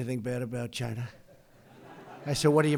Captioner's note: laughter